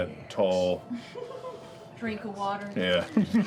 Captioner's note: texan accent